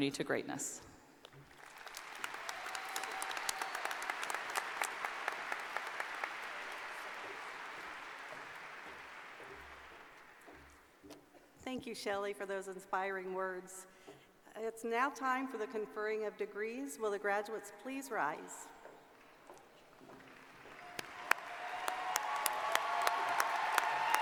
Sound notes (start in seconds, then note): 4.0 applause